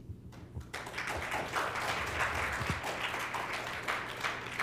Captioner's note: applause